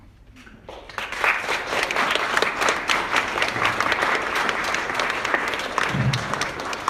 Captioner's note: applause